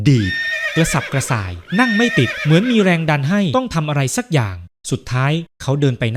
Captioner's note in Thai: เสียงหัวเราะ